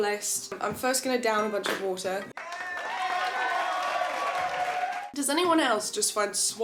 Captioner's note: cheering Audio Sample Plays